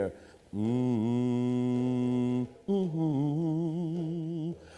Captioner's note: humming